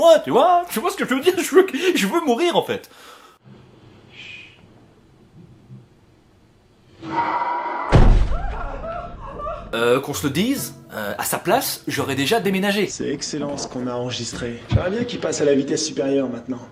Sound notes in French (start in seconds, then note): 7.0 Hurlement monstrueux